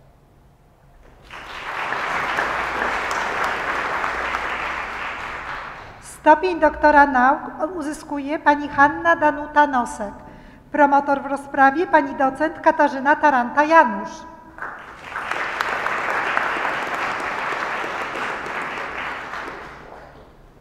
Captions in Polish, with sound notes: [oklaski] Stopień doktora nauk uzyskuje Pani Hanna Danuta Nosek. Promotor w rozprawie Pani docent Katarzyna Taranta - Janusz. [oklaski]